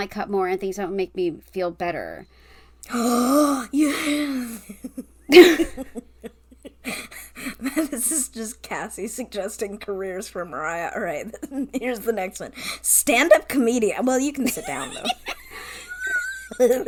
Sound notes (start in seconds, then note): 2.8 gasps, laughs; 14.4 laughs